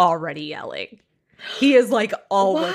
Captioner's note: gasps